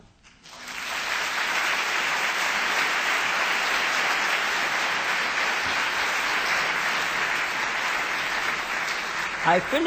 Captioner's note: applause